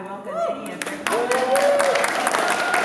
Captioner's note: applause